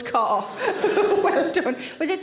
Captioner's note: Sarah laughs